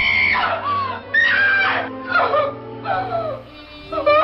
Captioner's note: girl Screaming